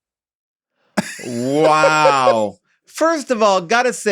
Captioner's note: laughs